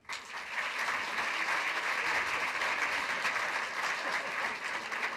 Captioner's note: applause